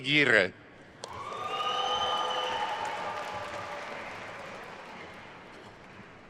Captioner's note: attendees cheering and applauding